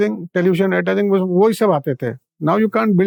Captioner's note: speaking in Hindi